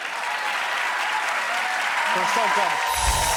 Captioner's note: audience applauding and cheering